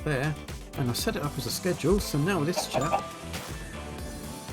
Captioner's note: ding